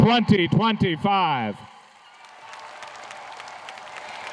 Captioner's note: applause